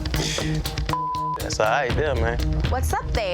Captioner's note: beep